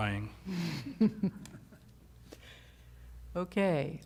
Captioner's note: laughter